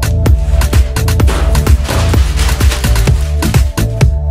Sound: even more crumpling

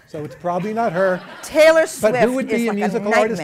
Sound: laughter

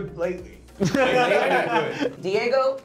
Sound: group laughing

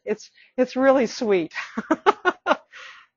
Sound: laughing

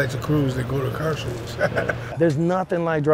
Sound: laughing

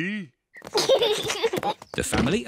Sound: oinks; kids giggle

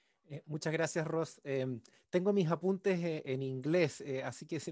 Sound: speaking in Spanish

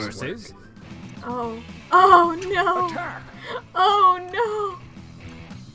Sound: through laughter

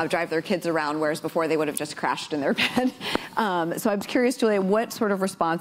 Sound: laughs

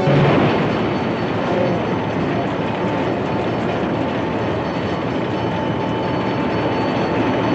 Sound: train bell clanging

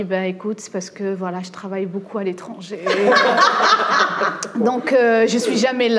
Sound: laughs

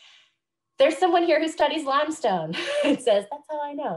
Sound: laughs

